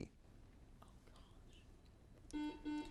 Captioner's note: whispering; buzz